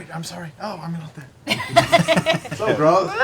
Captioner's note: laughter